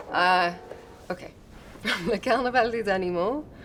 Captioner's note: French spoken audio